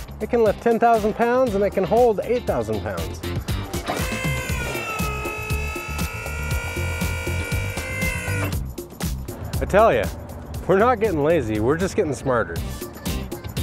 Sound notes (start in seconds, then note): 3.9 hydraulics being operated